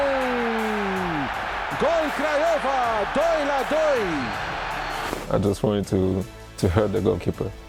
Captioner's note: cheers